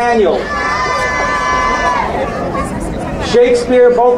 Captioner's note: crowd cheering